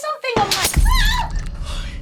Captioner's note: glass shatters, Annabelle screams